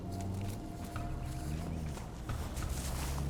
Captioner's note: vehicle approaching